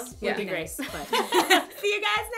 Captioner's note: laughter